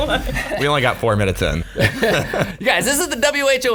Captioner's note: laughs